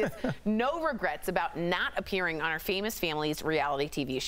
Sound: laughter

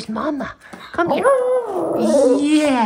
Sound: howling

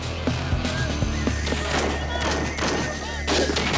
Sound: gunfire

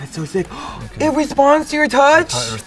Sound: gasps

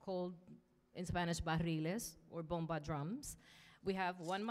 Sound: speaking in Spanish

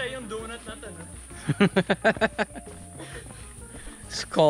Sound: laughter

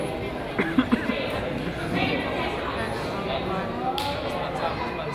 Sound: man coughs

